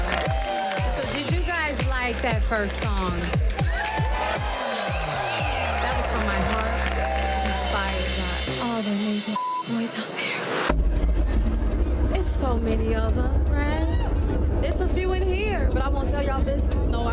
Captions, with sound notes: Did you guys like that first song? (crowd cheers) That was from my heart inspired by all the (beeps) out there. It's so many of them, there is a few in here but I won't tell your business.